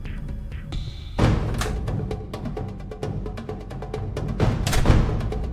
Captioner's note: door clicking